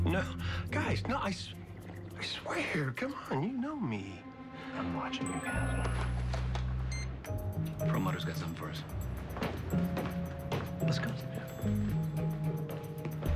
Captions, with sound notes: NO--GUYS--NO, I SWE-- (sipping loudly) I SWEAR. COME ON. YOU KNOW ME. I'M WATCHING YOU, CASTLE. (cell phone chimes and beeps) PERLMUTTER'S GOT SOMETHING FOR US. LET'S GO. YEAH.